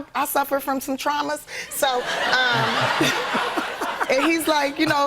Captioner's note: laughter